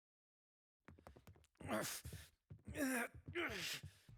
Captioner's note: grunting